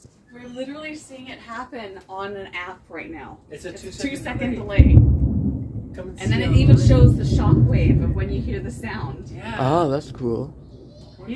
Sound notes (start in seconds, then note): 3.8 loud thunder booms; 10.5 loud thunder